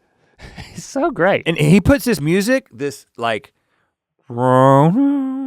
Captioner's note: laughs; hums weirdly